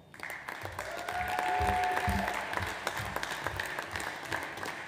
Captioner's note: audience applauds